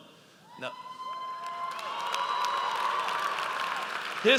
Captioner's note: audience cheers